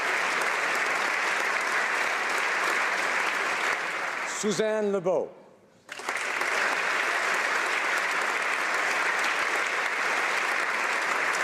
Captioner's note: applause